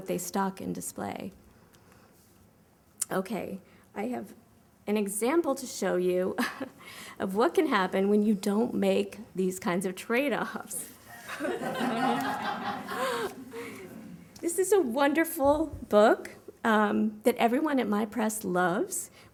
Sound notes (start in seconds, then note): 11.1 laughter